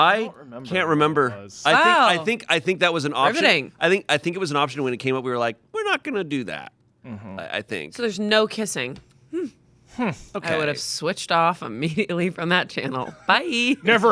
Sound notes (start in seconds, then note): 9.3 humming